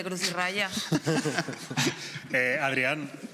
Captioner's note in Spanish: Risas